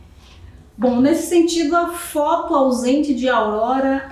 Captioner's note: speaking portuguese